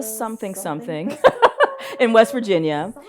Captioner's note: laughs